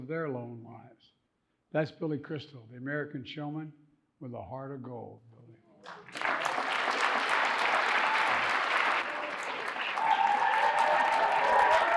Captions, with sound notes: of their own lives. That's Billy Crystal, the American showman with a heart of gold. (audience cheering and applauding)